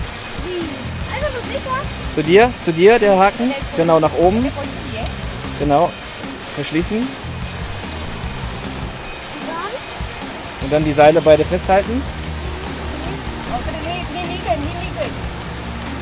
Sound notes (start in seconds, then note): 1.3 speaking German; 9.5 speaking German